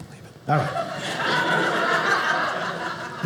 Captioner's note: audience laughing